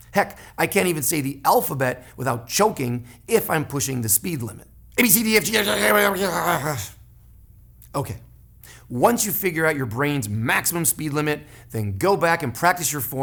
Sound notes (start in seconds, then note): 5.5 chokes